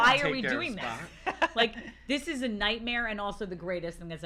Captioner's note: laughter